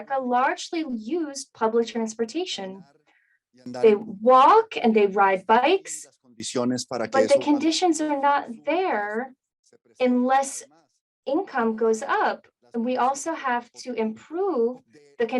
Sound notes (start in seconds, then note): 6.6 speaking in Spanish